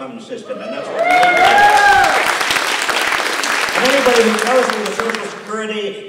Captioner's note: applause